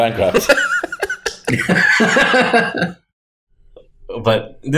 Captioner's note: chuckles